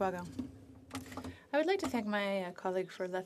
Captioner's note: speaking FRENCH